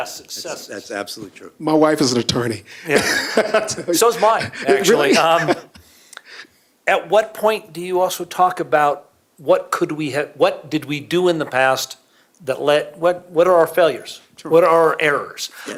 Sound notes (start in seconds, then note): 5.8 laughter